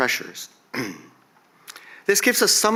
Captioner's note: coughs